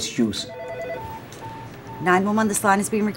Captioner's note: phone ringing